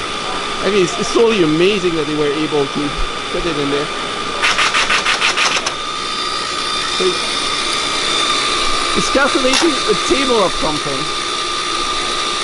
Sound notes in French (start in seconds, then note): 4.3 Bruits d'imprimante